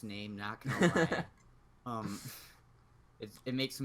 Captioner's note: laughs